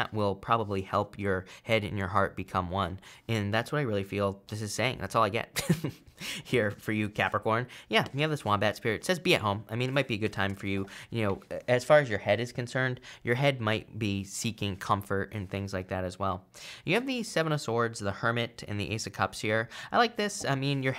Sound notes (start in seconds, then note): 5.5 chuckles